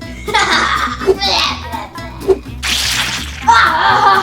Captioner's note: laughs; monster sounds; laughs